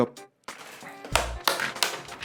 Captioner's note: pop pop; pop pop pop; pop